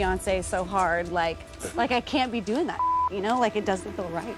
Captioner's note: beep